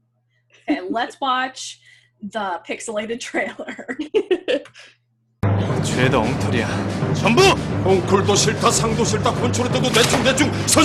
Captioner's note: laughs